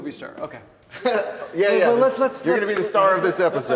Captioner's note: Wes laughs